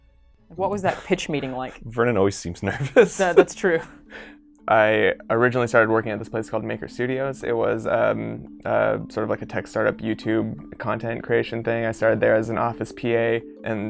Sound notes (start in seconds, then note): 2.6 laughing